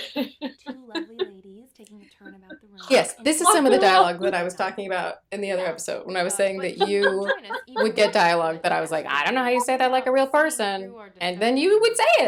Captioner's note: laughter